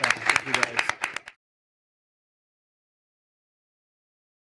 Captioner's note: applause